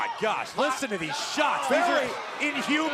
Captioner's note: crowd chatter